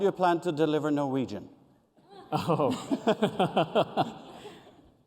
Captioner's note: laughter